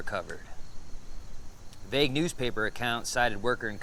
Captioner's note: insects chittering